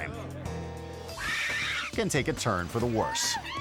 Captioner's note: shopper screaming